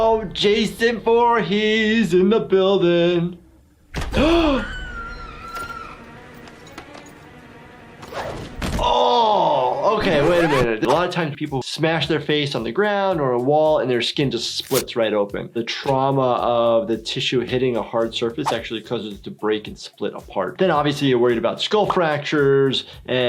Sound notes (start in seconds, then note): 0.0 dramatic horror music; 4.1 gasps; 4.1 woman screams; 8.7 thuds